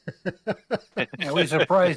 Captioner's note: laughter